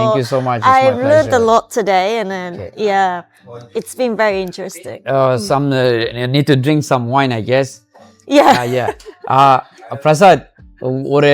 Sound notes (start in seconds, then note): 8.4 laughs